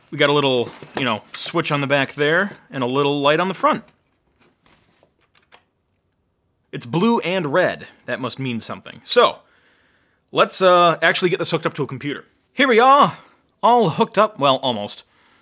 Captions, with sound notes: We got a little switch on the back there, and a little light on the front. (button clicking) It's blue and red, that must mean something. So, let's actually get this hooked up to a computer. Here we are, all hooked up, well almost.